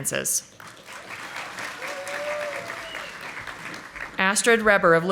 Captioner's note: audience applauding